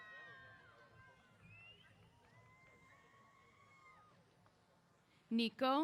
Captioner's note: cheers